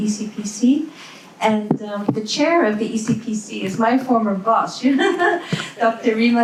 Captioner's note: laughs